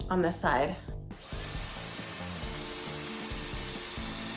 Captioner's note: device whirring